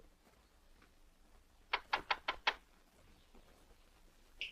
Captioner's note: knocks